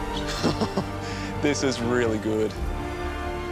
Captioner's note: laughs